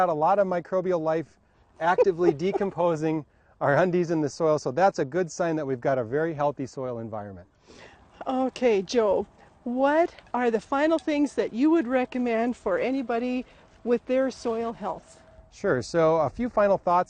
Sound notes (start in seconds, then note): 4.4 laughs